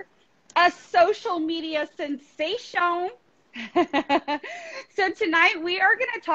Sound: laughing

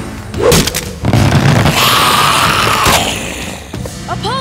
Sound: hissing

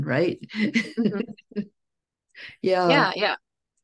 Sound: chuckles

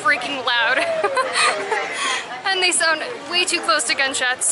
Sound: laughter

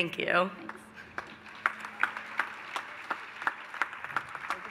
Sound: applause

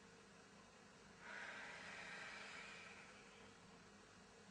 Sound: exhale

